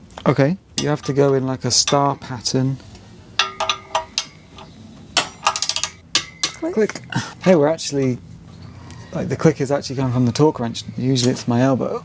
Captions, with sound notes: Okay, you have to go in like a star pattern. (clicking) Click. Hey, we're actually, like the click is actually coming from the torque wrench. Usually it's my elbow.